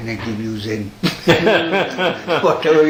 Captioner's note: laughter